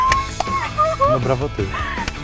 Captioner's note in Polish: Smiech; śmiech